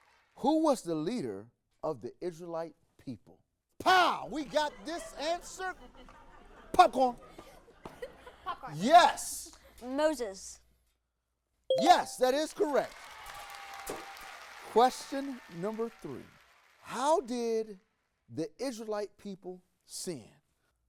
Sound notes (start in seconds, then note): 11.8 audience clapping